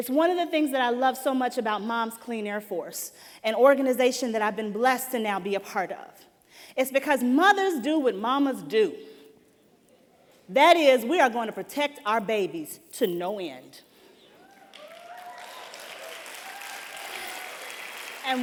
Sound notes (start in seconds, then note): 14.4 applause